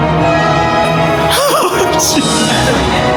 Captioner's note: laughs